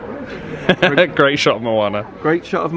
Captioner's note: laughs